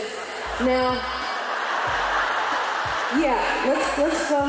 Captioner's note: laughter and applause